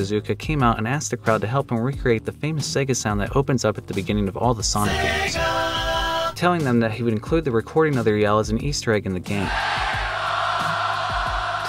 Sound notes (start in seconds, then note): 4.8 Sega sound; 9.4 crowd yelling Sega